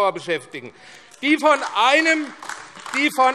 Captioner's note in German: Beifall AfD